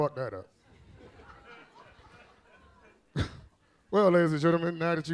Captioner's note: audience laughs